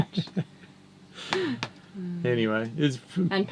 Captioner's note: laughing